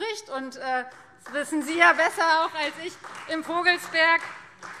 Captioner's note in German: Beifall